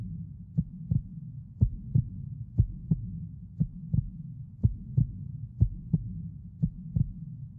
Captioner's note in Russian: стук сердца